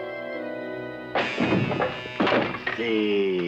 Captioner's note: crashes